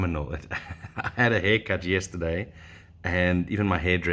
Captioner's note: laughs